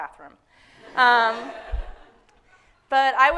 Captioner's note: audience laughing